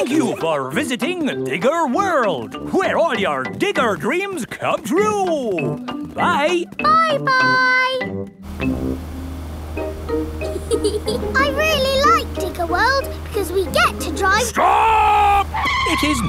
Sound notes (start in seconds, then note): 10.4 george chuckling